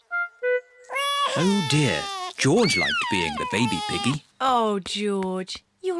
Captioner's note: bawls